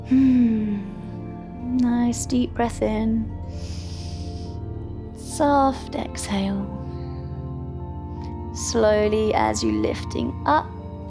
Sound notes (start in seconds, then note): 0.0 inhales; 0.3 exhales; 3.4 inhales; 7.6 calm music